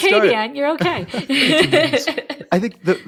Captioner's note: laughing; chuckling